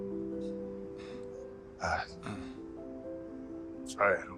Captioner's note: clearing throat